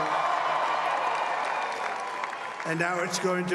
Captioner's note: applause